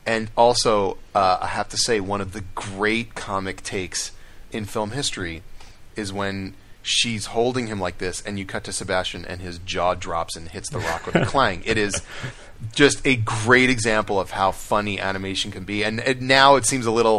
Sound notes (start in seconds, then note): 10.7 laughs